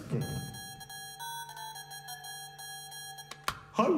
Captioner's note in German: Handyklingeln